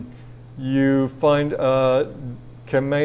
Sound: speaking in foreign language

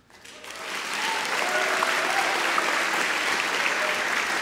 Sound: audience cheering

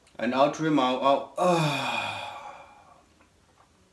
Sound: exhales

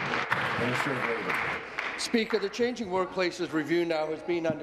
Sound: applause

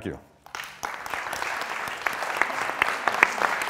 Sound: applause

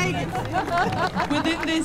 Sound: applause

